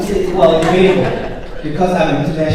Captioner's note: audience chuckles